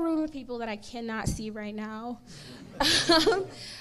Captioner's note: laughs